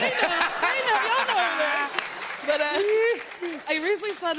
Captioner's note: laughter